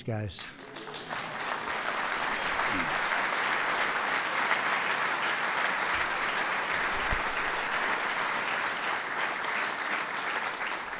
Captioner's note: applause